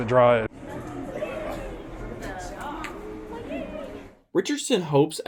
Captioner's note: crowd murmurs